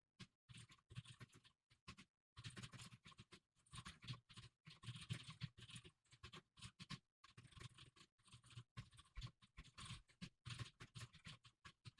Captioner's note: typing sounds